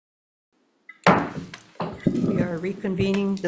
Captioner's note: gavel bangs